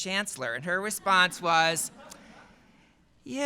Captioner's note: laughter